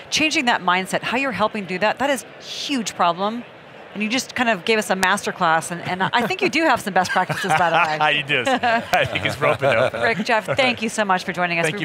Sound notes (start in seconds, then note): 5.7 laughing